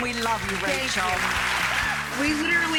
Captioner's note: applause